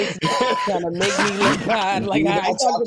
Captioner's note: laughing